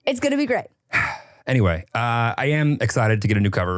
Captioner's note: sighs